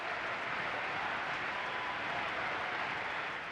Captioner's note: cheering and applauding